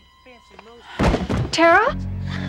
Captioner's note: falls